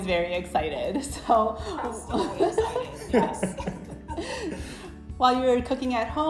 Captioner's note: laughter